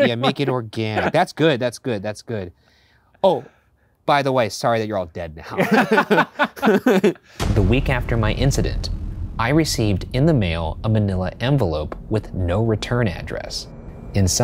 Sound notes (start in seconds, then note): 0.0 laughing; 5.5 both laughing